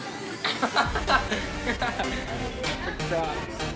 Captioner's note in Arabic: الأولاد يضحكون